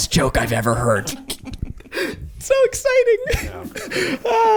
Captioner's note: giggling